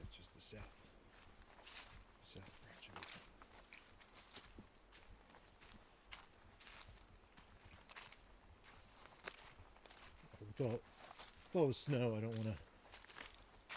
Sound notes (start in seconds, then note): 8.6 footsteps